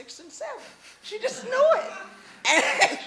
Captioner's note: laughter; laughs